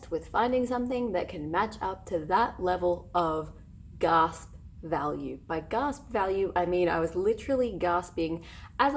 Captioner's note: gasp